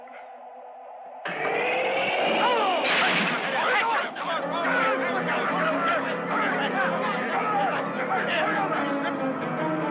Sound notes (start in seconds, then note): 4.1 all clamoring; 4.1 suspenseful orchestral music